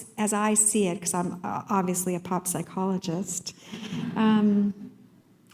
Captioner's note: laughter